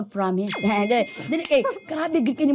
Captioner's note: chuckles; laughs